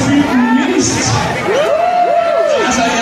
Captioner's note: cheers